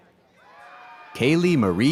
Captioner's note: audience cheers